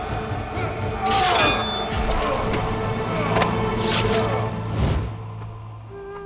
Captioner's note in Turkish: Savaş sesleri